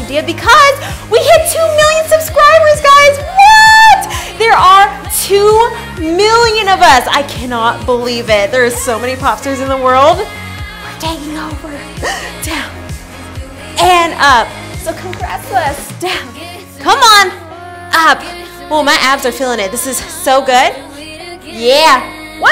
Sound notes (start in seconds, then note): 12.1 laughs